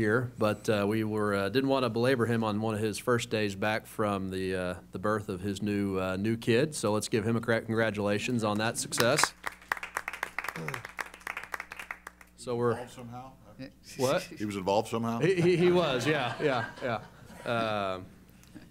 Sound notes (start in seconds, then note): 8.9 applause; 15.2 laughter